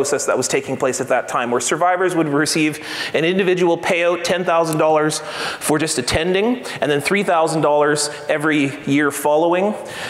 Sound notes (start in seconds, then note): none